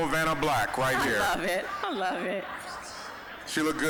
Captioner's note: laughing